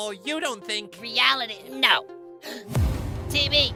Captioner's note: gasp